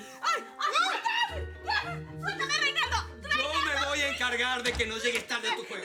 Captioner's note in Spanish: Gritos y exclamaciones